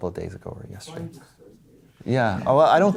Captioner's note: voiceover